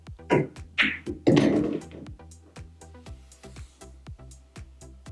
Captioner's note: pool balls clacking and thudding